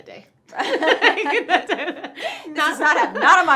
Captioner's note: both laugh